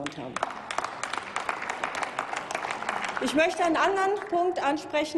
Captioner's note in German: Applaus